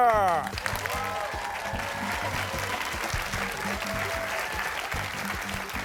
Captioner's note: cheers and applause